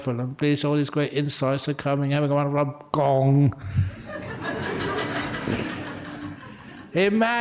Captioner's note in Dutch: lachen